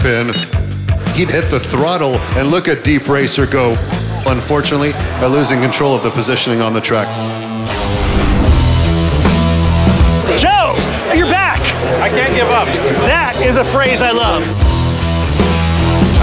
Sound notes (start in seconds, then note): 3.4 audience sighs; 7.2 upbeat rock guitar music; 14.3 upbeat rock guitar music